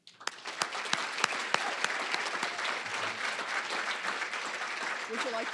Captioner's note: applause